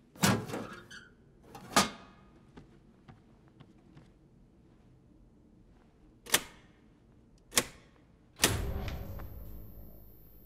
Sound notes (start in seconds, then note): 0.2 old fusebox creacks open; 5.0 switches clicking, power comes ack on